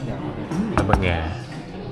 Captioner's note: speaking Vietnamese